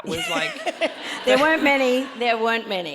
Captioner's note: audience laughs